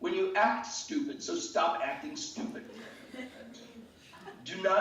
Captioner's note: laughing